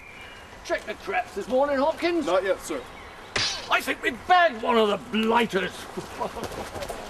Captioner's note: snap